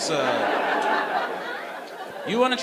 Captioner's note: audience laughing